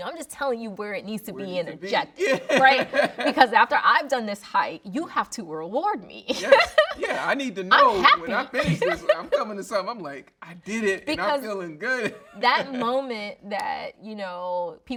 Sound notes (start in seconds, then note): 4.1 laughing; 6.3 laughing